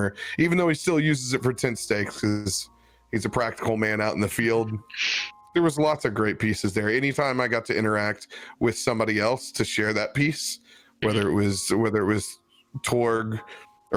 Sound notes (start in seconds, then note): none